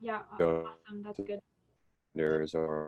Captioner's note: video interference